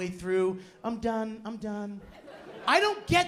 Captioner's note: laughter